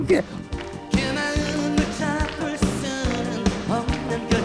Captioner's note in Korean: ~조용필 성대모사 중~